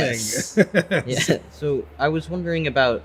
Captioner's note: laugh